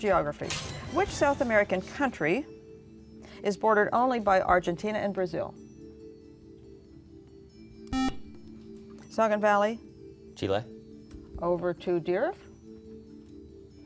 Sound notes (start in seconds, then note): 7.9 buzzer